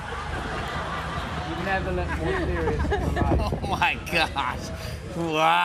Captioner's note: laughter; chuckling